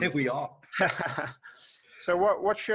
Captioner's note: laughing